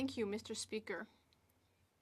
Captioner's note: speaking French